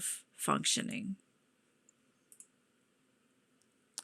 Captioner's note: mouse clicking